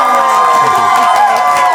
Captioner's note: audience cheering